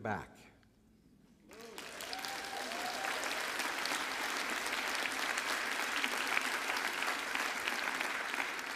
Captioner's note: applause